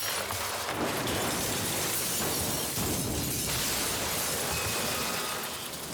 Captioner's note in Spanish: estruendo